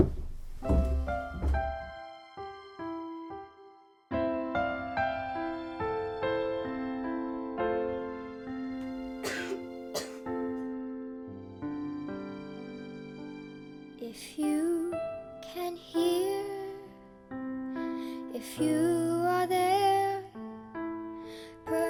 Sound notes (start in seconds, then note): 0.6 light piano music; 9.2 coughing